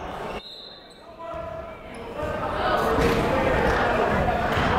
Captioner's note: whistle blowing; yelling